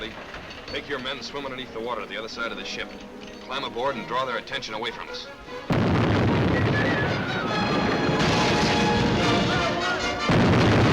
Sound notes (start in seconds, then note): 2.7 cannons firing; 6.9 men shouting